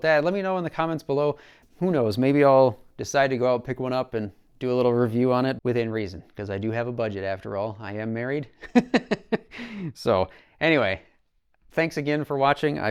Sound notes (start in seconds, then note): 8.6 laughs